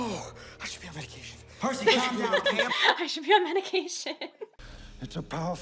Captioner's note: laughs